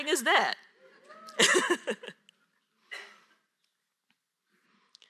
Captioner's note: audience cheers